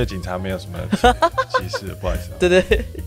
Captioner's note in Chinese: 哈哈哈哈哈